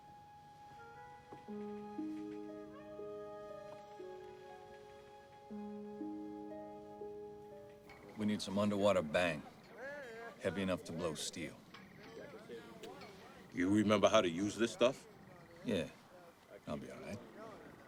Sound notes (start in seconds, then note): none